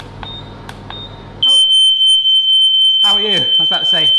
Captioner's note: fan beeping; smoke alarm blares